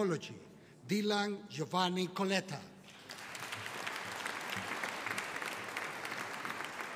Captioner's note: audience applauding